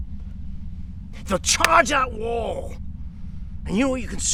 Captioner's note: fist cracking into hand